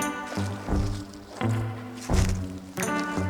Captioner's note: machinery whirring